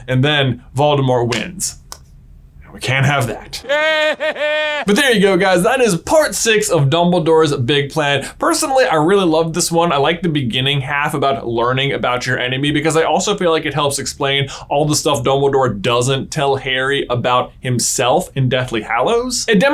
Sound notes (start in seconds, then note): 3.3 Voldemort laughing